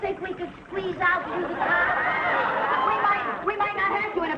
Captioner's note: audience laughing